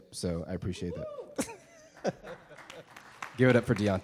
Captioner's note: audience applause